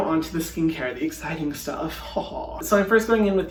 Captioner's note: chuckling